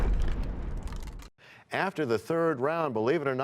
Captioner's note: crashing sound